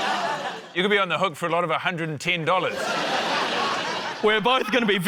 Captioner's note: laughter